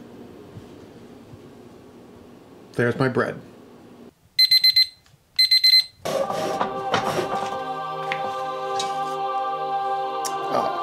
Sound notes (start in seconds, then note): 5.4 timer beeping; 7.2 celestial music; 8.3 scraping